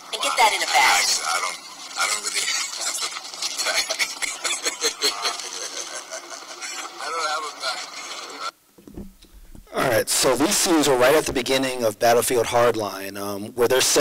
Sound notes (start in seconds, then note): 0.0 voiceover; 1.7 voiceover; 4.1 laughing